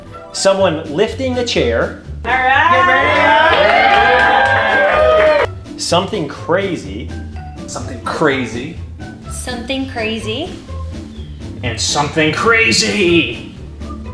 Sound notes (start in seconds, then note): 2.2 group cheers and applauds